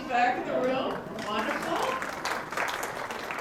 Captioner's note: applause